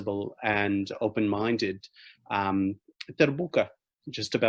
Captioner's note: speaking in foreign language